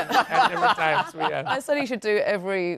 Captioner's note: laughter